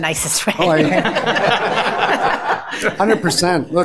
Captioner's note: board Members laugh